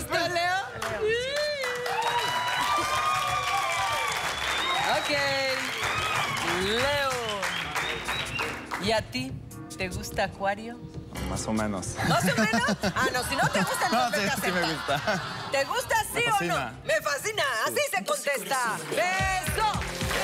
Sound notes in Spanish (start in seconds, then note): 5.3 Aplausos; 5.9 Gritos